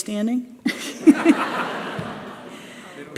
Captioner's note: laughter